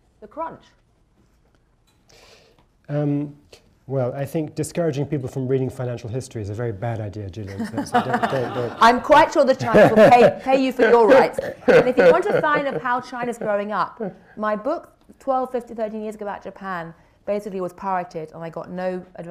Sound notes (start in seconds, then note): 7.5 laughter; 11.0 laughs